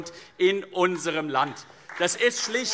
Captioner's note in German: Beifall CDU, BÜNDNIS 90/DIE GRÜNEN, Freie Demokraten und vereinzelt SPD